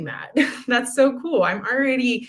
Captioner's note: laughter